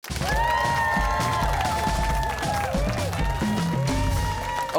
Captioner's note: cheers and applause